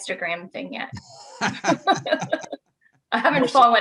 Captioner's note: laughing